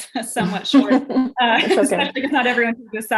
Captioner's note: laughs